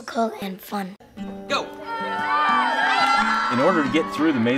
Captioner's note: cheering